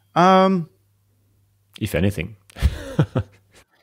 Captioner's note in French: rires